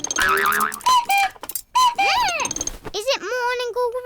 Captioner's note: clock cuckoos; gasps